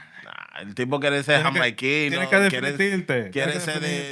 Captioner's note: speaking Spanish